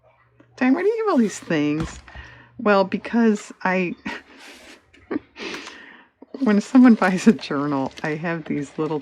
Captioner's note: laughs